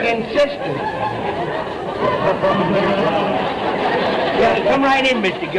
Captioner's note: audience laughter